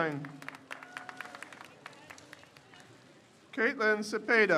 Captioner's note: crowd cheers